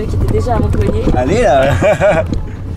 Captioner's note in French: rires